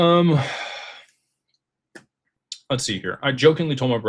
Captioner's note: sighs and gasps